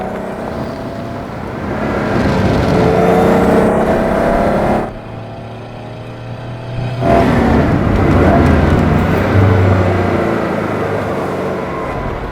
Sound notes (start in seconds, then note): 4.8 boxer engine noise in the distance; 9.9 engine decreases a lot in RPM